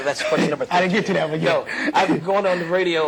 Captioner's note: laugh